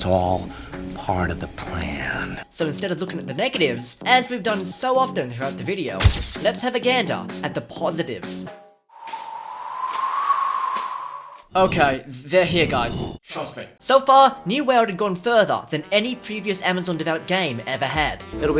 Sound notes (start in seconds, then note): 8.9 wind